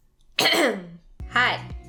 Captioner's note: ahem